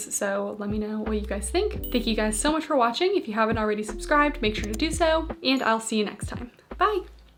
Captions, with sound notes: so let me know what you guys think. [bell chiming] Thank you guys so much for watching. If you haven't already subscribed, make sure to do so, [mouse clicking] and I'll see you next time. [bell chiming] Bye.